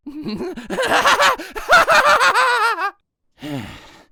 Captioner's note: maniacal laughing